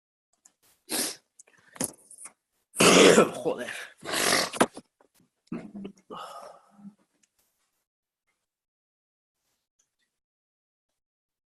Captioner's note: sneezing, nose blowing and other non-verbal human-generated sounds